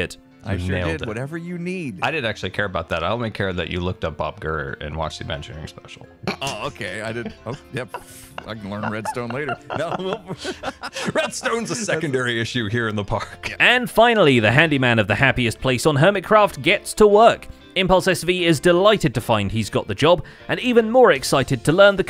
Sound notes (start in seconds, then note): 6.3 snickers; 7.4 mutters; 9.4 laughs